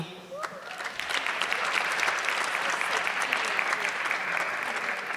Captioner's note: audience clapping